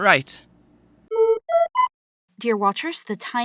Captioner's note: PSA notice tone